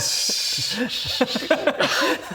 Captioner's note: crafty giggles